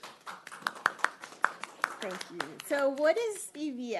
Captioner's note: applause